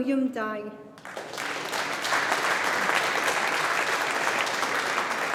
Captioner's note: audience applauding